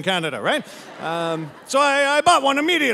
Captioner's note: audience laughing